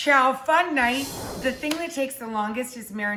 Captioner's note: air whooshes